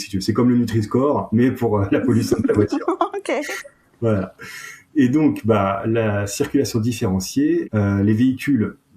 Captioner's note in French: rires